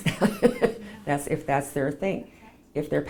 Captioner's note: laughs